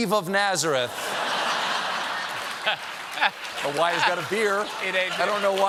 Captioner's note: laughter